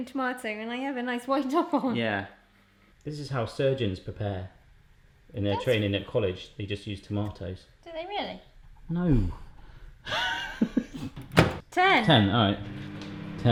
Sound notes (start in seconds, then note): 10.0 laughing; 11.1 slams